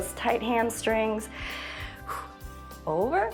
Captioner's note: inhales and exhales